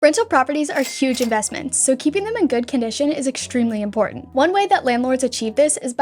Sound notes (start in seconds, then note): 0.5 soft music; 0.7 cash register dinging